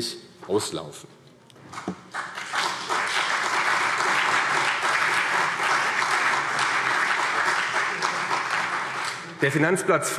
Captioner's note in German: Beifall CDU und vereinzelt BÜNDNIS 90/DIE GRÜNEN